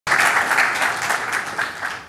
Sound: applause

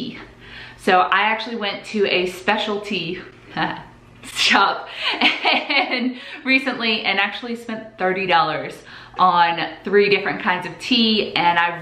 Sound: laughs

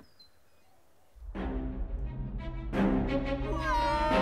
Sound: Eddie screaming

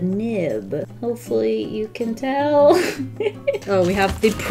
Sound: laughs

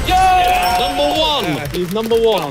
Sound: participants cheering

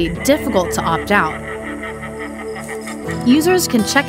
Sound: ghostly voice laughing

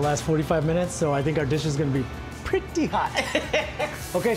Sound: laughing

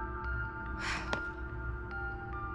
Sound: sighs

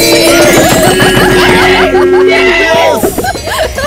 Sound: laughs

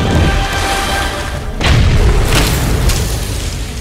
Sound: boom

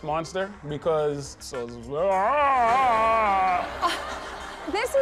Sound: imitates roar; audience laughs

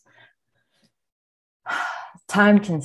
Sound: breathes deeply

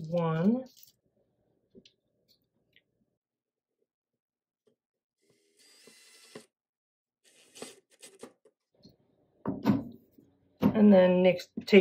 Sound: drill sounds

